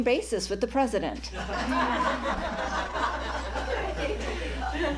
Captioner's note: laughter